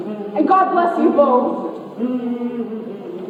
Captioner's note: offstage humming hymn